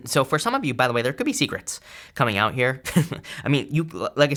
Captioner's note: chuckles